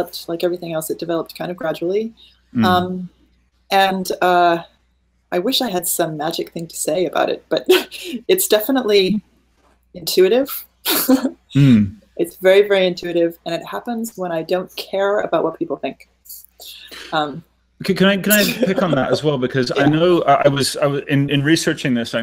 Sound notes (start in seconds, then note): 10.5 giggling; 17.8 laughing